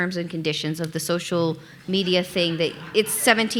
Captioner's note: audience laughing